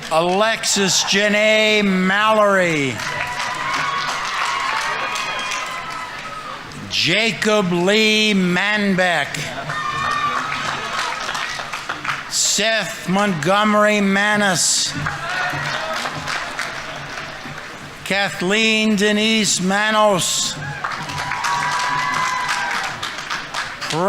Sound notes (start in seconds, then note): 3.0 audience applauding; 3.0 audience members cheering; 9.7 audience applauding; 9.7 audience members cheering; 16.2 audience applauding; 20.7 audience applauding; 20.7 audience members cheering